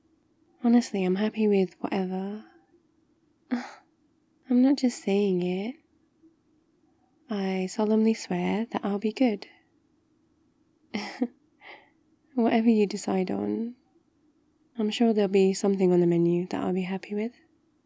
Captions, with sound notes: honestly, I'm happy with whatever *offended gasp* I'm not just saying it I solemnly swear that I'll be good *laughs* whatever you decide on I'm sure there'll be something on the menu that I'll be happy with